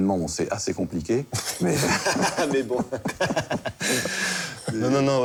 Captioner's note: laughter